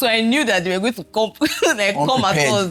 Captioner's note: laughs